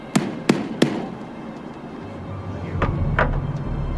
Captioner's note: hammer tapping